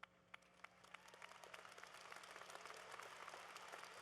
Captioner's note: applause